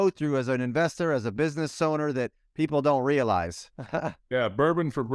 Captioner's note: laughs